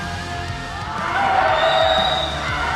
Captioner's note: referee whistle